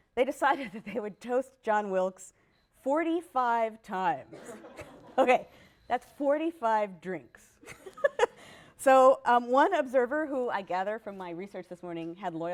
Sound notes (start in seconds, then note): 4.3 laughter; 7.6 laughs